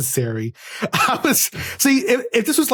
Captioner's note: laughs